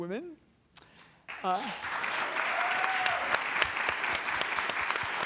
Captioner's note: applause